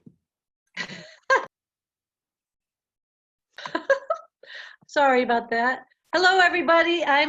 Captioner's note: laughs